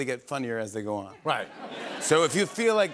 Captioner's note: laughter